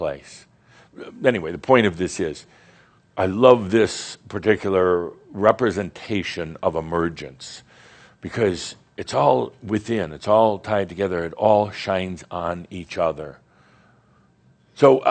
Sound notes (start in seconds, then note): none